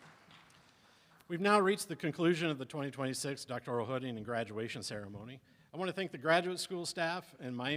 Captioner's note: applause